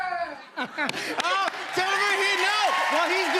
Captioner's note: cheers and applause